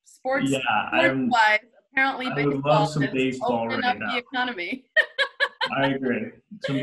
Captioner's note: laughs